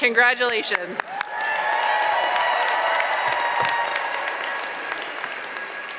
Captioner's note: applause, cheering